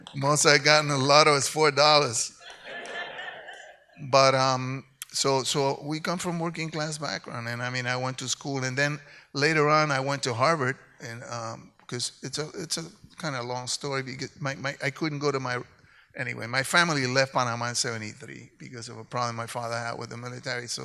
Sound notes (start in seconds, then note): 2.4 audience laughs